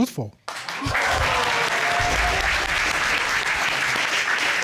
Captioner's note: audience exclaims